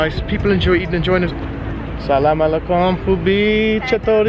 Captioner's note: foreign language